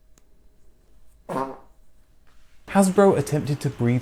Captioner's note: fart sound